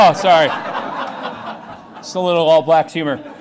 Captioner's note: laughing